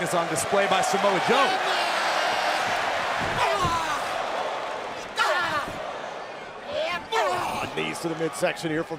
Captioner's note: crowd cheering